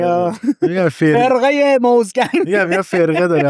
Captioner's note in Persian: خنده